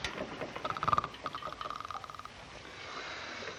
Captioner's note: snoring